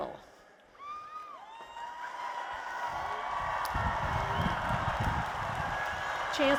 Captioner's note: applause and Cheers